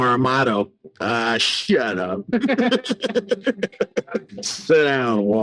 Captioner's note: laughing